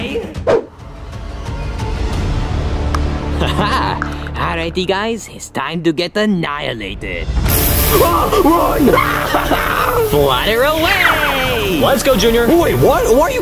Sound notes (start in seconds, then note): 0.6 suspenseful music; 0.6 air whooshing; 3.8 laughs; 7.8 Bowser yelling; 7.8 yells